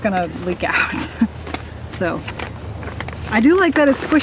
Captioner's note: laughs